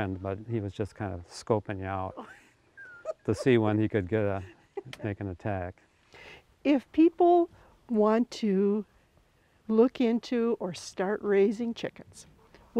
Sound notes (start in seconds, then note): 2.8 laughing